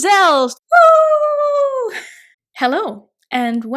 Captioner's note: happily cheering